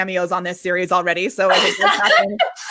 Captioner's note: laughing